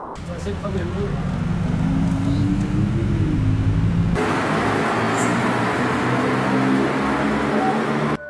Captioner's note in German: Straßengeräusch